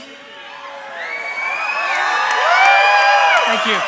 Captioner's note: crowd cheers; applause